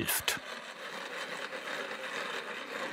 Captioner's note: ratcheting